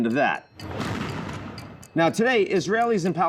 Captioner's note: missiles firing